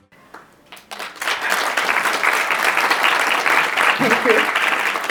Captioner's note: attendees clapping